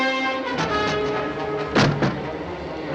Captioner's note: window rattling